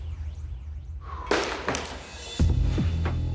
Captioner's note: exhales